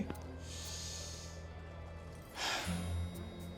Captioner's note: inhales deeply